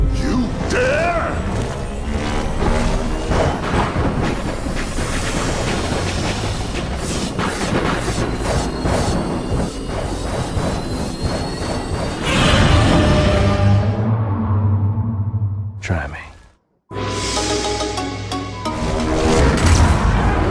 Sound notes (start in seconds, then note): 11.8 Godzilla roars aggressively; 19.3 Godzilla fires atomic breath